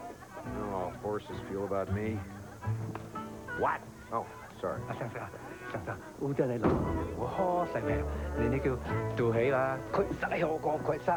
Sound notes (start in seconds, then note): 4.8 speaking Cantonese